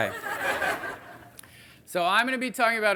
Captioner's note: audience laughing